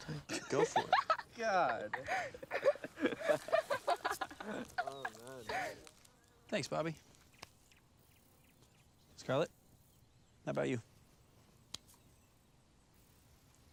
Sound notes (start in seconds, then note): 0.0 girls giggling; 1.7 Robert giggling